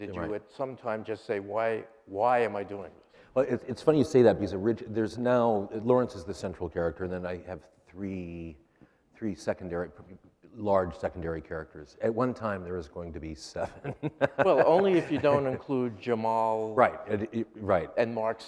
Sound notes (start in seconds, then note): 13.6 laughs